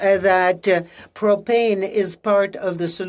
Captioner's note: speaking in French